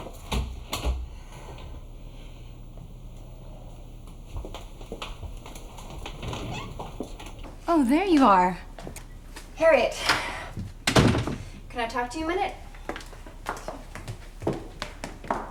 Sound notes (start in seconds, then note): 0.0 door clicks; 6.6 door clicks; 10.9 door bangs